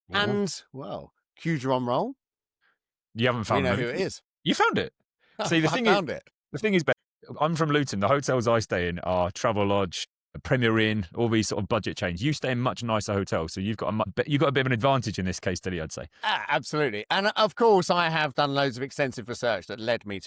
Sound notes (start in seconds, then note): 5.4 laughs